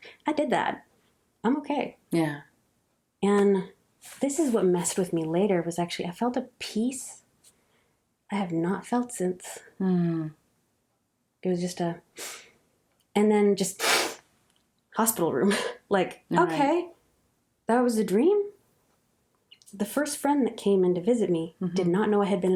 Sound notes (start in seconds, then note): 12.8 breathe in; 14.5 breathe out